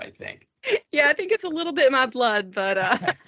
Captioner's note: laughing